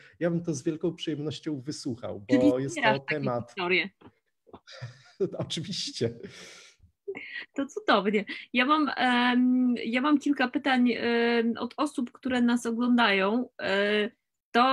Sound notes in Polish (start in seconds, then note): 4.7 śmiech